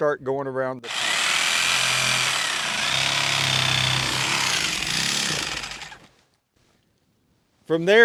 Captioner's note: saw sounds